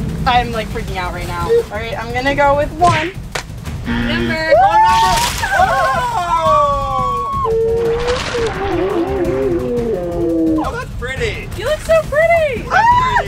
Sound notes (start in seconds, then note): 3.8 buzzer; 4.3 crowd screams; 12.8 screams